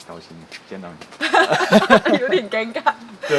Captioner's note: laughs